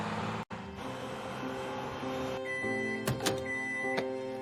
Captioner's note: beeping